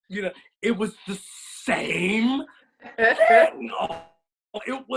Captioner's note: laughs